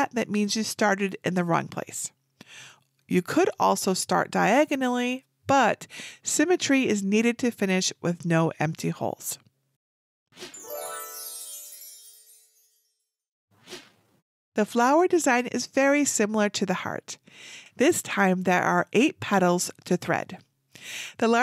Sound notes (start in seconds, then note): 10.5 chimes tinkle